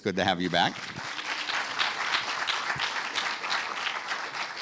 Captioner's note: audience applauding